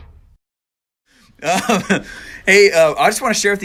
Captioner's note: chuckling